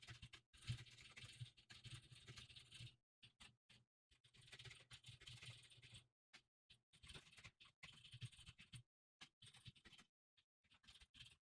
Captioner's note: typing sounds